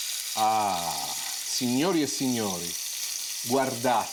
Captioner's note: loud sizzling